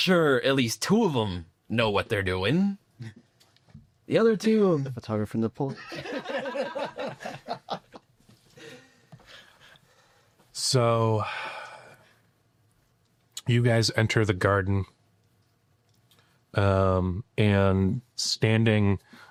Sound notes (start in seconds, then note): 1.6 laughing